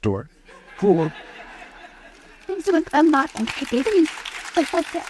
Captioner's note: audience applauds